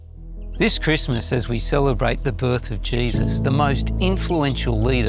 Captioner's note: birds chirping